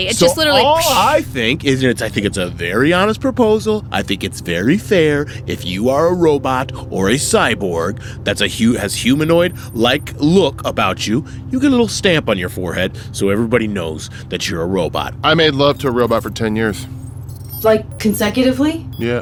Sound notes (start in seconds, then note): none